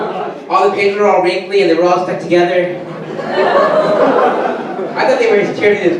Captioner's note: audience laughter; audience laughter and groans